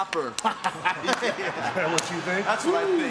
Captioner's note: Kurt and Chris laughing